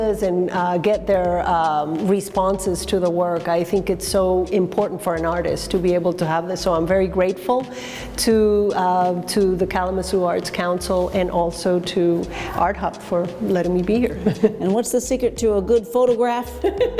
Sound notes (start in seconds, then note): 14.1 chuckles; 16.5 laughs